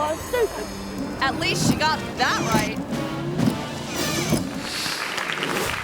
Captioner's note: wipers whirring; audience clapping